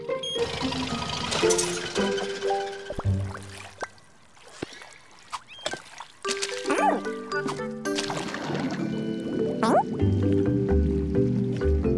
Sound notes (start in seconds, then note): 0.0 radar sound; 0.4 motor shuts off; 6.1 splash